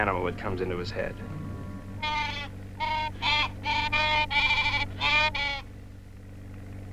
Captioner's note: Pete squawking